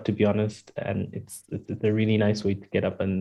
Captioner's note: laughing